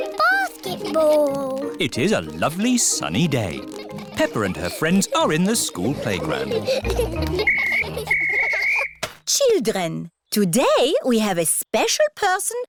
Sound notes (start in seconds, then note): 8.0 blows whistle